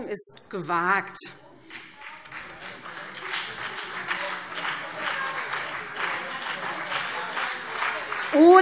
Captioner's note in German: Beifall BÜNDNIS 90/DIE GRÜNEN und vereinzelt CDU